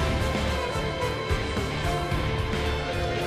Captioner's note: whistle